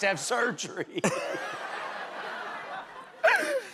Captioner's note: laughter